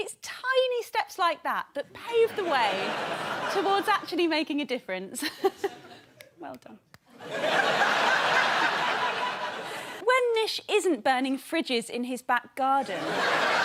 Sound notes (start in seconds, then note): 7.1 laughter